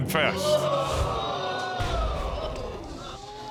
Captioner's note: audience gasps